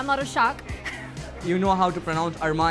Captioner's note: laughing